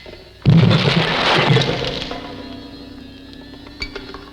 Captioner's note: crunching